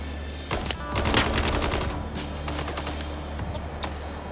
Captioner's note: tense music; guns firing